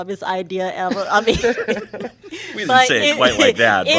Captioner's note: laughter